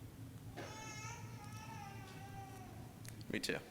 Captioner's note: baby crying